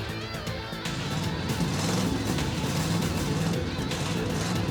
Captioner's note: engine revs